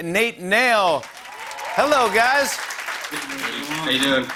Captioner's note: cheers and applause